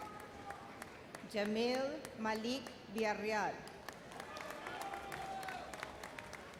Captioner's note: audience applauds